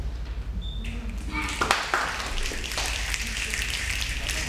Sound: snapping

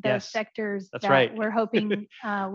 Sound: laughs

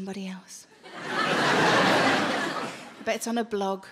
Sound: laughing

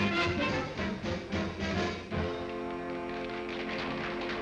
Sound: applause

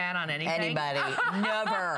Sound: laughter

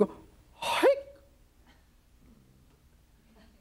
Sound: shouts lightly

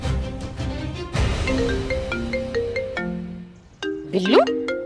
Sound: mobile ringing

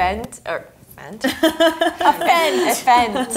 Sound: laughs

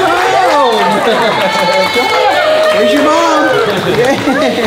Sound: staff cheering

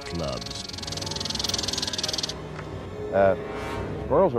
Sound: squirrel chittering

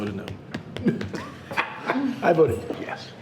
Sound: people laughing

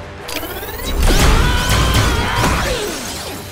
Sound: grunting

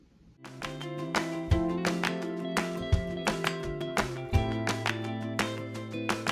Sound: bright music; rhythmic clapping

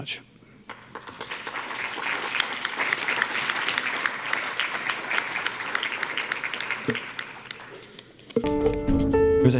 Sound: applause

